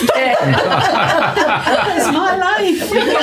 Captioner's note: laughing